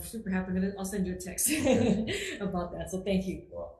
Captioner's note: chuckles